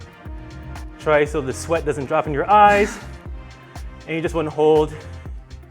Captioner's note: laughing in unison